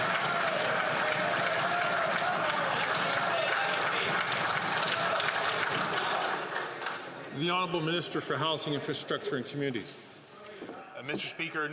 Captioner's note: some Applause